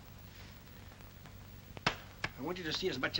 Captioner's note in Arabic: صوت التربيت